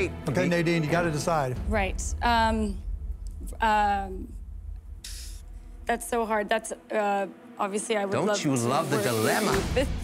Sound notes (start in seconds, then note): 5.0 exhales sharply